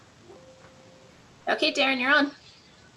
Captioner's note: computer jingle